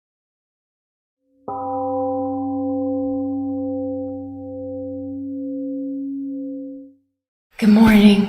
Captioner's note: temple gong rings and fades